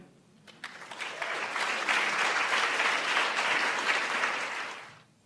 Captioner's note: applauds